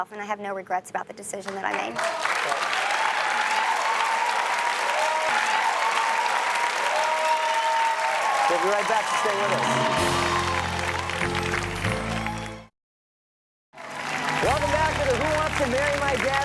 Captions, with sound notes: and I have no regrets about the decision that I made. (audience cheers and applauds) - We'll be right back, so stay with us. (orchestral music) - Welcome back to the "Who Wants To Marry My Dad? Reunion."